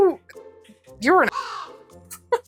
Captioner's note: caw